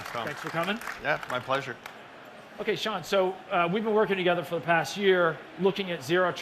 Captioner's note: applause